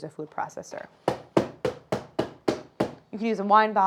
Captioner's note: hammering sound